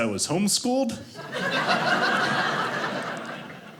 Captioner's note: audience laughing